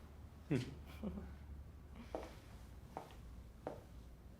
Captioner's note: both chuckling